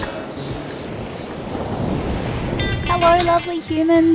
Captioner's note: crashing waves